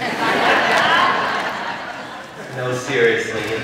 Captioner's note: laughter